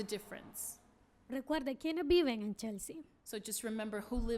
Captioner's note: speaking spanish